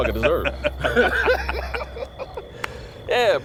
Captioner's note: laughing